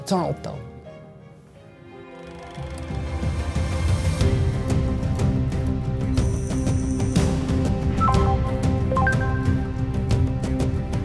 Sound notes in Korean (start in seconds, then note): 2.0 다이얼 소리; 6.1 디지털 효과음; 7.9 희망찬 음악